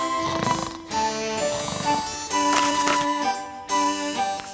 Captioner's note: light snoring